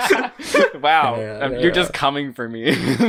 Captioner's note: both laugh; muttering; laughing